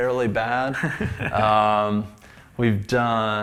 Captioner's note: laughs